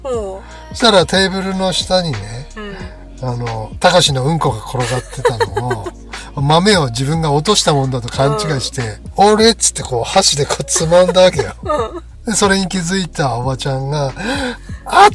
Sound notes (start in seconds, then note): 10.4 laughs